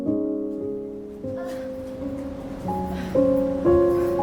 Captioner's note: Raquel groaning